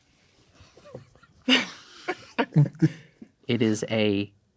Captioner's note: players chuckling